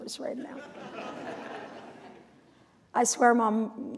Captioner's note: laughter